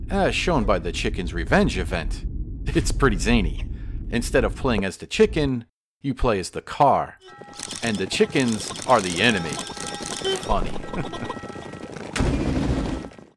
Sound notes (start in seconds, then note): 12.1 smash!